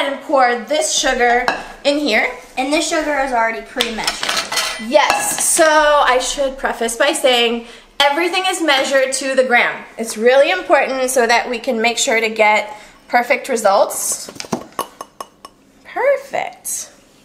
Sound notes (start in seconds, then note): 14.7 glass clanking